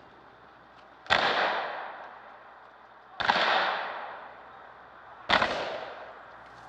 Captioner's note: guns fire three times